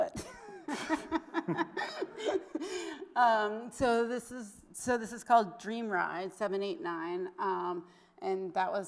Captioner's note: laughs